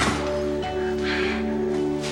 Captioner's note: sighs